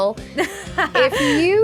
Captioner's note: laugh